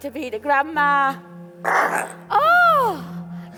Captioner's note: baby burps